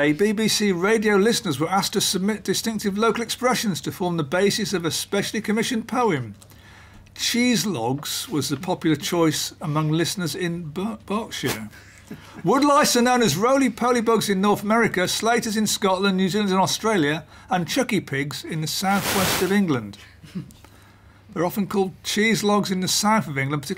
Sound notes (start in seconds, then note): 11.7 laughs